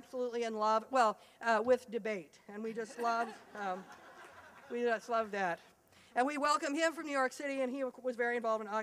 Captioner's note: laughter